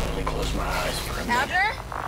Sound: radio turns on

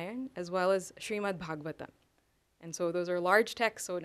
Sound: sanskrit

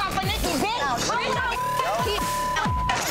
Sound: beep; shouting; beep

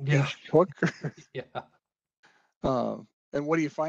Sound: laughs

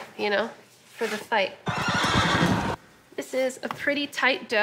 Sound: horses whinnying

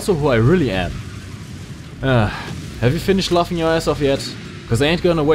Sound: sigh

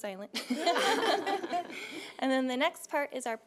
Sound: laughing

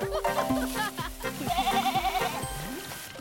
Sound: bleating

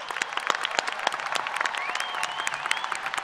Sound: applause

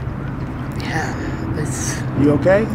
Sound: sniffing

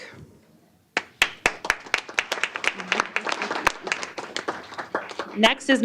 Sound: applause

